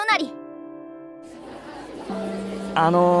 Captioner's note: chatter